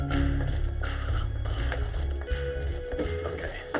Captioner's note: whispers